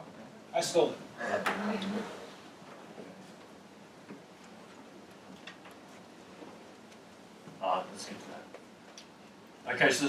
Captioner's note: laugh